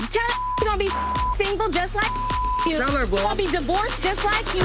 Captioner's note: beep